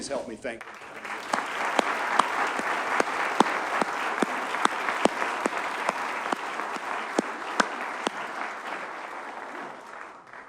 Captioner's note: audience applauds